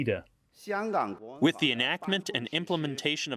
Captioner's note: through translator